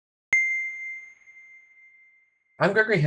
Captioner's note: bell chiming